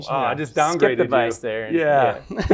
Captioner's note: laughter